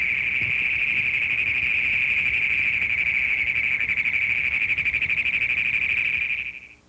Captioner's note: Great Plains toad call